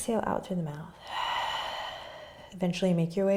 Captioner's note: exhaling